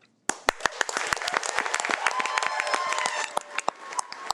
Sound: audience applauding

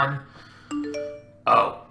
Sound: phone blings

